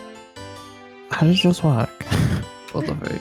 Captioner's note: chuckles™